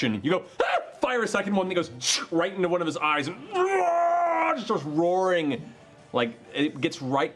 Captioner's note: screams